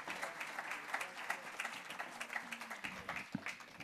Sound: applause

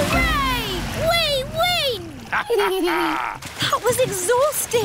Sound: both laugh

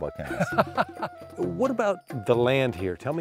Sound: laughter

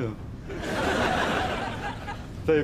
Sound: audience laughs

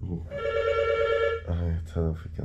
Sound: phone rings

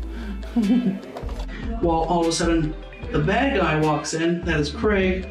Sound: laughs

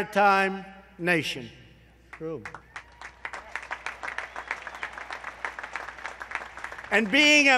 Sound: applause

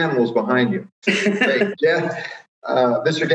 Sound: woman laughs

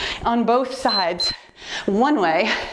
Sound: timer beeps

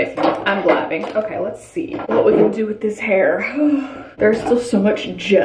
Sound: sighs

